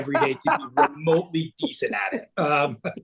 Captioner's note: laughing